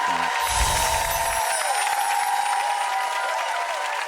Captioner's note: audience applauds